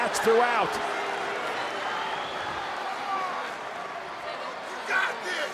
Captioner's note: crowd chattering